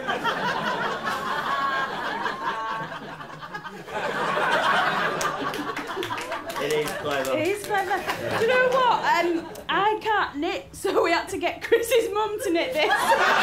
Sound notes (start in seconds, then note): 0.0 laughter; 5.0 applause